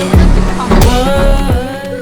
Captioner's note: bang